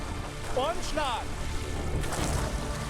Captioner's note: speaking German